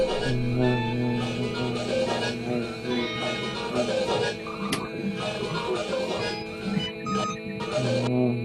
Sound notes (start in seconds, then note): 2.2 growling